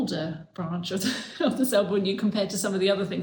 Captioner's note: chuckles